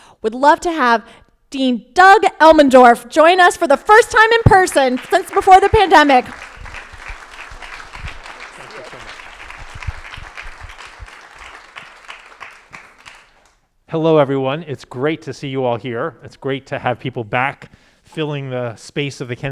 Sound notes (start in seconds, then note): 6.4 crowd applauding